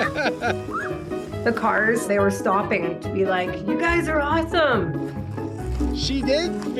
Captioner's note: laughter